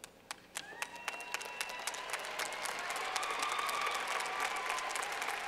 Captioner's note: clapping